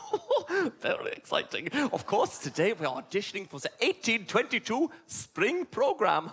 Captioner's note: giggle